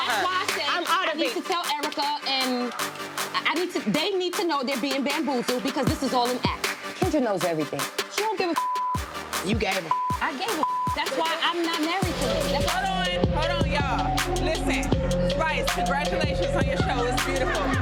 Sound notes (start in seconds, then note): 9.8 beep